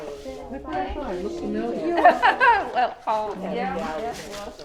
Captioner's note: artists chattering